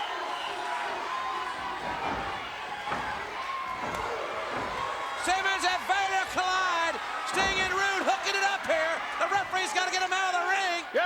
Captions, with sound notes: (crowd cheers loudly) Simmons and Vader collide. Sting and Rude hooking it up here. The referee's gotta get him outta the ring.